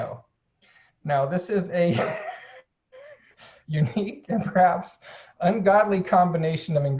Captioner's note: laughing